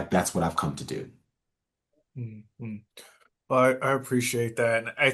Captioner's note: nods and hums in agreement